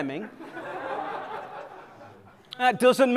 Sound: laughter

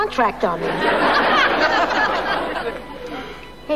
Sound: audience laughing

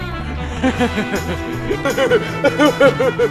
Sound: laughs devilishly

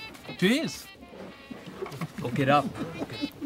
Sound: laughing

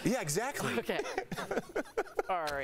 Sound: laughter

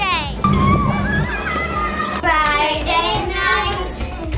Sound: kids shouting

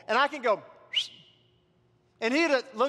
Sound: whistles

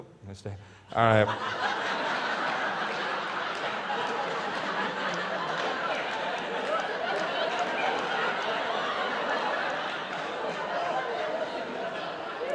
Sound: laughters

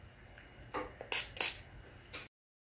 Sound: spritzing noise

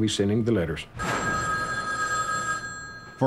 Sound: phone ringing

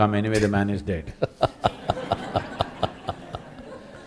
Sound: laughter

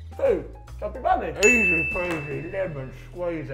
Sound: ding

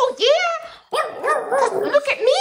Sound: howling

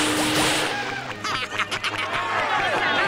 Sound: laughing

